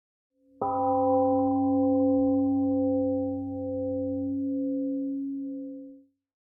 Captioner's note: temple gong